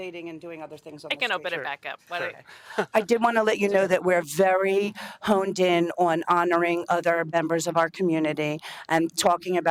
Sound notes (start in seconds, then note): 2.7 laughter